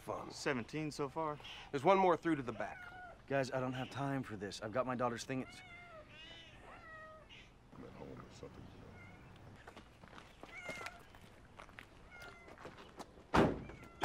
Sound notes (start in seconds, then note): 5.2 cats meowing